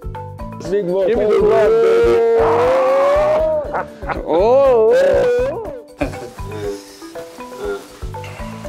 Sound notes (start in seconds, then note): 1.2 distorted microphone-smothering greeting sounds